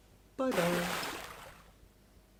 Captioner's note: big Splash!